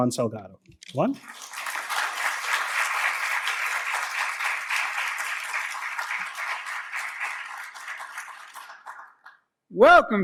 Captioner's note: applause